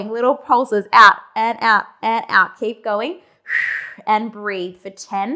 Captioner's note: breathing sharply